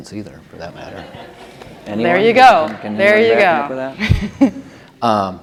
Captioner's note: laughter